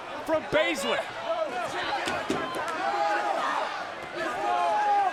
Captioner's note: all chattering